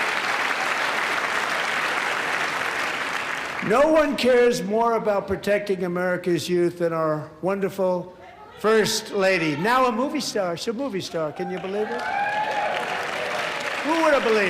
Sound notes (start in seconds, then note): 0.0 applause